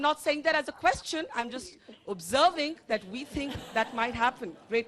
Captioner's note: laughter